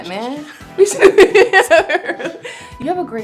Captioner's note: laughs